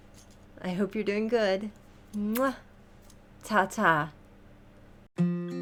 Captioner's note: kiss; peaceful guitar music